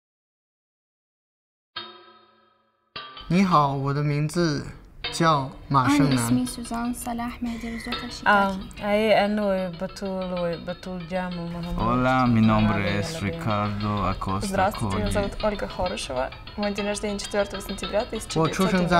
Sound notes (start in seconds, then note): 3.7 student speaking Mandarin; 6.3 student speaking Arabic; 12.4 student speaking Spanish; 15.3 student speaking Russian